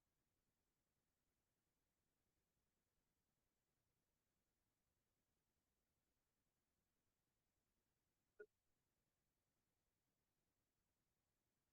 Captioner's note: no audio-break